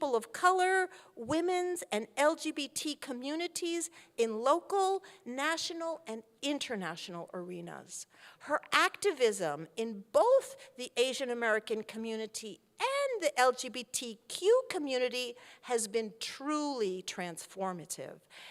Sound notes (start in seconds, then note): none